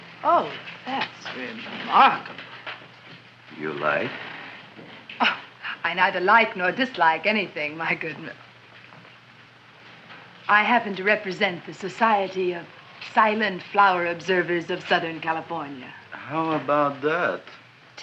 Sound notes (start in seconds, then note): 5.2 chuckles